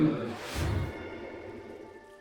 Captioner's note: groaning